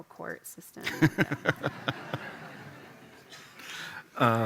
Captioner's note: laughter